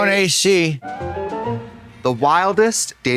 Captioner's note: whimsical chime